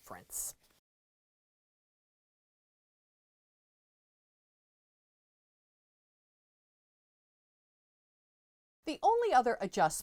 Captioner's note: no Sound Present